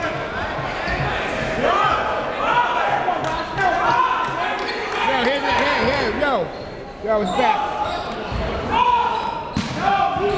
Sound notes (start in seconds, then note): none